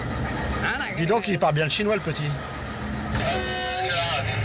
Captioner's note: conductor speaking foreign language; train horn blaring; dispatcher speaking foreign language